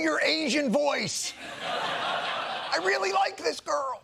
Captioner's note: laughter